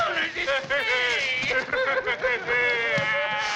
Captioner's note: laughing; screaming